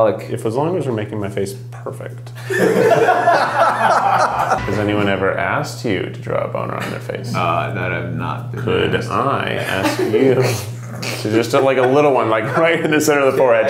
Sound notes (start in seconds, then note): 2.4 laughing